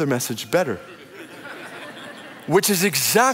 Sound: audience laughing

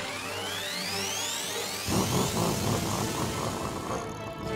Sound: growls

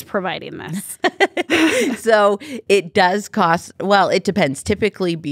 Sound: laughs

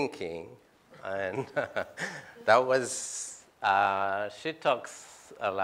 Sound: laughs

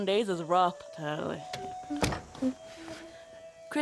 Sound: door opens

